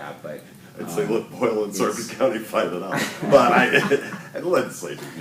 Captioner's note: laughter